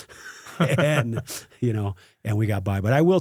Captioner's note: laughs